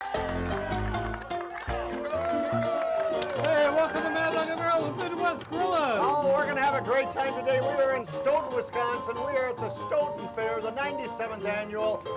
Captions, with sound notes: - Yeah! (crowd cheering and clapping) (cheerful music) - Hey, welcome to "Mad Dog & Merrill Midwest Grill'n". - Oh, we're gonna have a great time today. We are in Stoughton, Wisconsin. We are at the Stoughton Fair, the 97th annual,